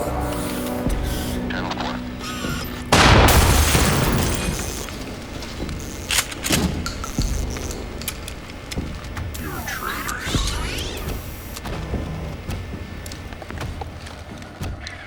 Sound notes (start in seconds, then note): 2.9 gunshot blasts; 5.5 shell casing clatters; 6.0 gun cocks